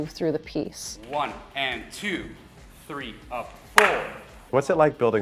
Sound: hands clapping

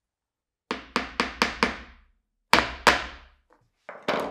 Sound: hammer taps

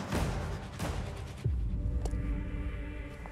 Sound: tires screeching

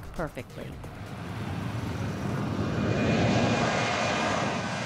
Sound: engines whooshing

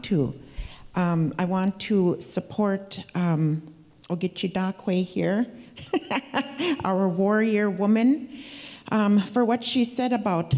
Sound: speaking Ojibwe

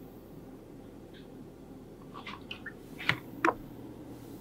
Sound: pouring Oil

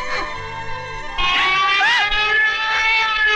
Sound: distant Siren Wailing

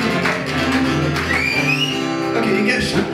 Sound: whistles

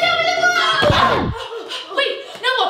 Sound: loud thud

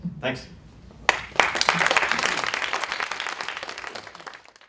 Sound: applause

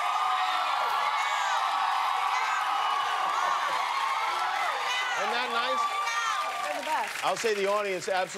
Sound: cheers and applause

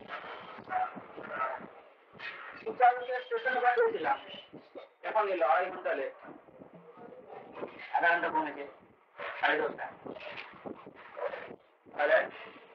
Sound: Hindi

